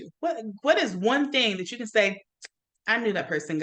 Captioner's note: teeth smacks